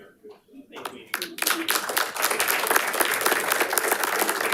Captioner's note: audience applauding